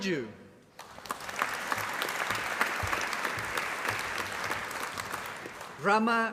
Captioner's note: applause